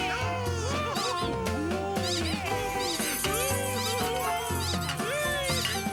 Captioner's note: squeak; cheers & chuckles